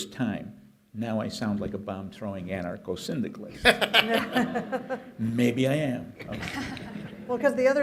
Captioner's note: laughter